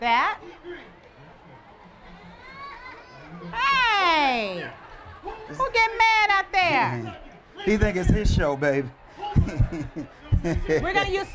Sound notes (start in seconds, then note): 2.2 baby crying; 9.3 laughter